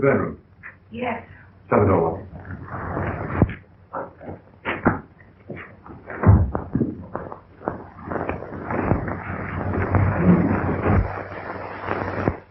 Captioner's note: pounding